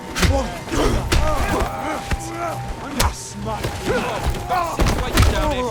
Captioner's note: groaning